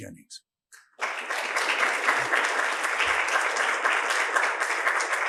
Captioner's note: audience claps